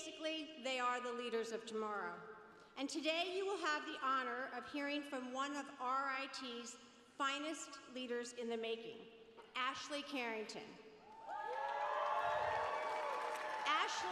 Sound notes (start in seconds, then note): 11.0 cheers